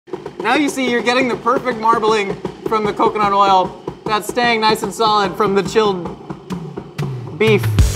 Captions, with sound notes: (food processor rattles) - Now you see you're getting the perfect marbling from the coconut oil that's staying nice and solid from the chilled beef.